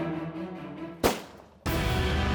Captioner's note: gun shot